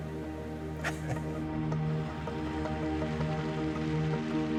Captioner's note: laughs